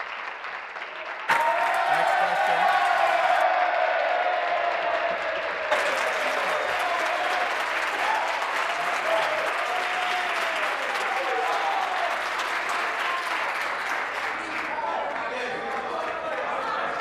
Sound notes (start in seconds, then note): 1.3 applause; 5.2 cheering